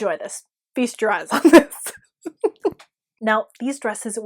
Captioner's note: giggle